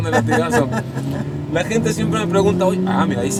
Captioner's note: engine revving